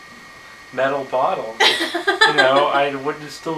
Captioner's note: laughs